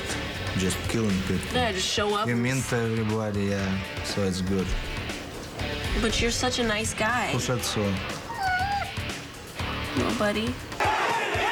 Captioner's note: laughter